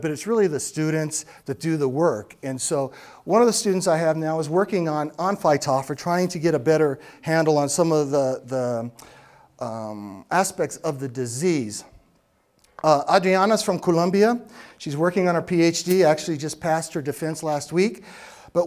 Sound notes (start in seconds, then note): none